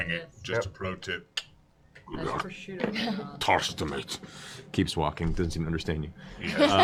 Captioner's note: speaking Draconic